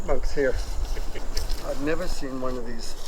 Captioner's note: chuckles